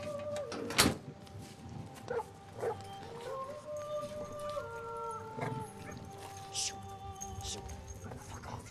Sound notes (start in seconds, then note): 2.6 dog barking in distance